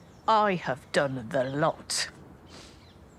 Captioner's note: none